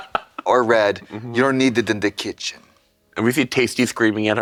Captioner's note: russian Accent